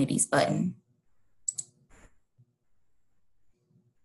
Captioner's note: mouse click